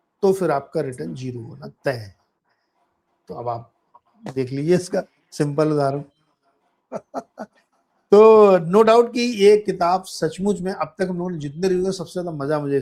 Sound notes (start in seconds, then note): 6.9 laughter